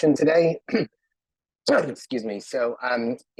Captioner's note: clears throat